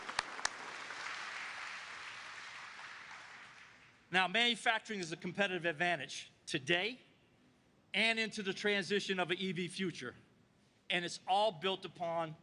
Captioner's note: applause